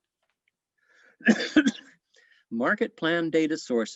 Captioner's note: coughs